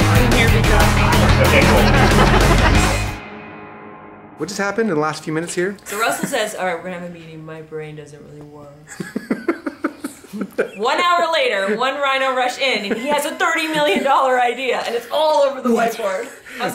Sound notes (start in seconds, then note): 8.9 laughs